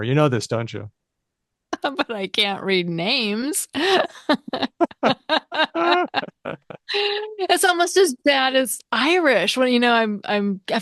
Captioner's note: laughter